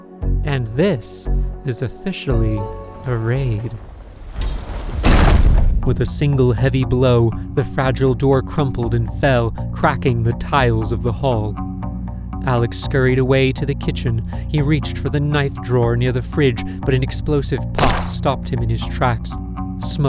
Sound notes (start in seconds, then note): 3.8 heavy thud